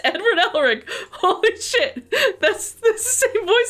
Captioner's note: laughing